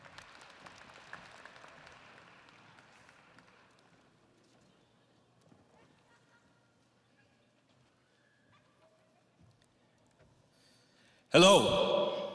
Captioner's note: audience applauding